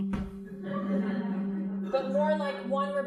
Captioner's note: crowd laughing